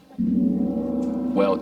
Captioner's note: gong clanging